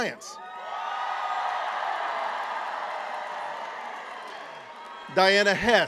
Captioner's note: cheering